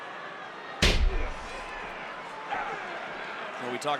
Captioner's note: wrestlers thud